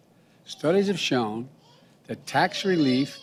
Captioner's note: a baby cries